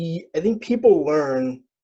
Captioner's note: none